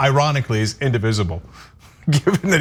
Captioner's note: laugh